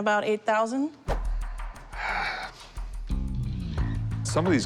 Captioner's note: sighs